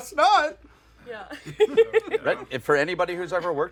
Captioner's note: laughs